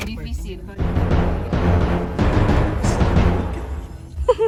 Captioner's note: suspense sound effect